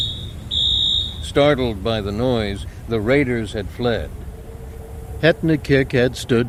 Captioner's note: sonic alarm sounds